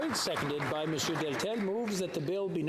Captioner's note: some Applause